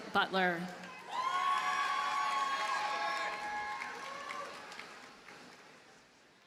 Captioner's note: audience cheers and applauds